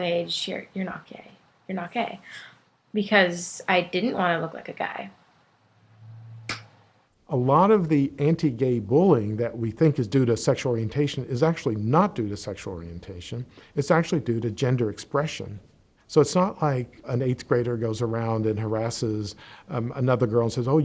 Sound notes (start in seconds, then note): 6.5 claps hands together